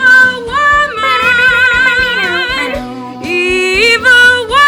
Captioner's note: screeches